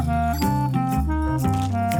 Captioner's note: device pings